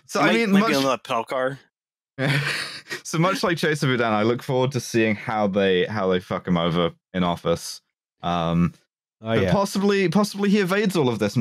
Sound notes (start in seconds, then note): 2.2 laughter